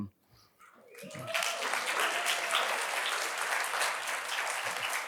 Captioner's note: audience applauding